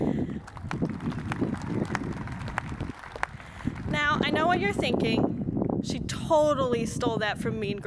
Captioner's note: cheers and applause